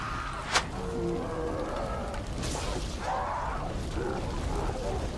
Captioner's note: creature screaming